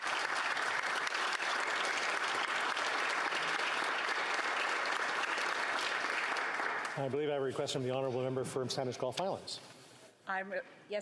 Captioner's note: applause